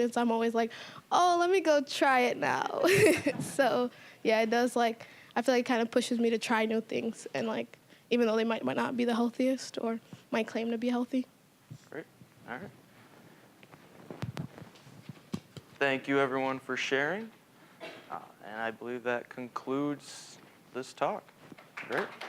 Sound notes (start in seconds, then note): 2.8 all chuckling